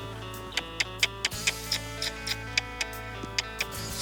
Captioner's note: clicking